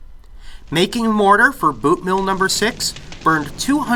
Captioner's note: roaring, crackling fire